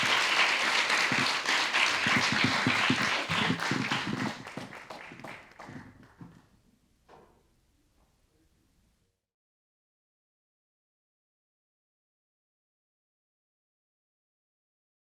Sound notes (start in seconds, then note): 3.3 applause